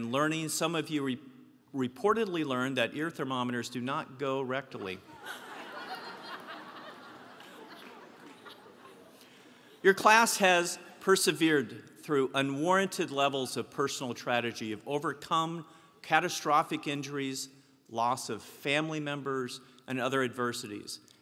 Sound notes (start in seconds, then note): 5.0 laugh